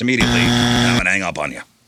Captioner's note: buzzer